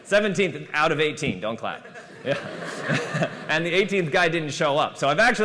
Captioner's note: laughter